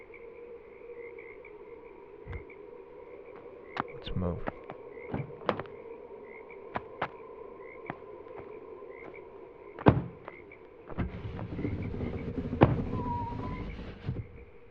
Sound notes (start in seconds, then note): 5.2 door swings open; 6.6 footsteps crunch; 9.8 car door slams; 12.5 car door slams; 13.0 car window rolls up